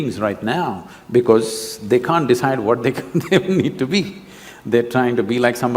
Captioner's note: laughs